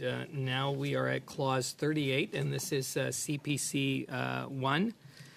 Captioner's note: speaking French